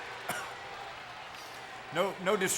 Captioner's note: CM Punk coughs